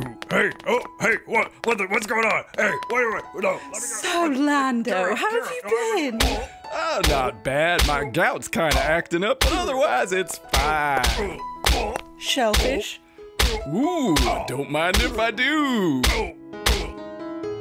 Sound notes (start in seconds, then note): 6.2 sound of Han getting pummeled